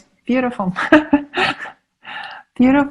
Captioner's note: laughing